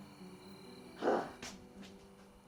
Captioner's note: bucky scoffs